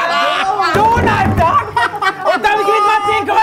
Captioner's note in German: Lachen, Schreie